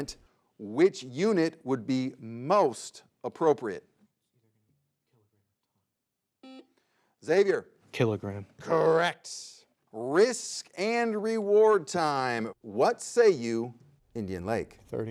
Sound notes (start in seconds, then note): 6.4 buzzer beeps